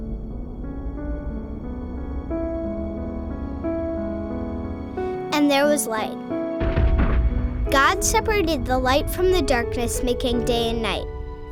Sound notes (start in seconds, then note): 6.5 distant explosion